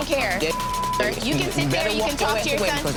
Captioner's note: beeping